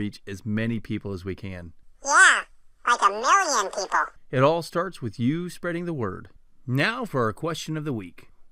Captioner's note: man's voice